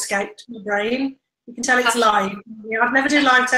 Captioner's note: laughs